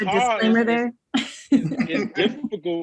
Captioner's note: laughs